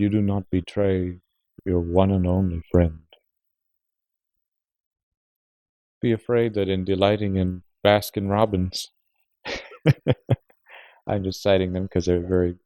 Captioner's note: laughs